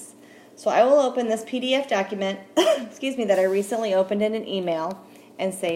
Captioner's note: presenters coughs